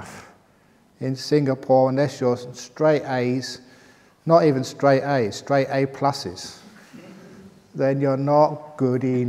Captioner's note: laughter